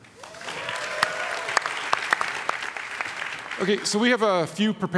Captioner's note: audience applauds